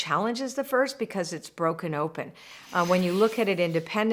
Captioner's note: loud whooshing